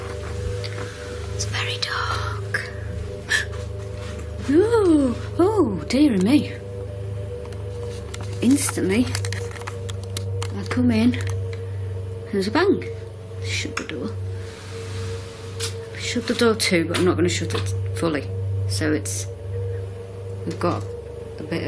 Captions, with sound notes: It's very dark. (gasps) Oh, oh, dear me. Instantly, I've come in, and there's a bang. Shut the door. I'll shut the door too, but I'm not gonna shut it fully so we've got it a bit open.